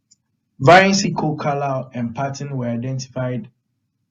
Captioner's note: none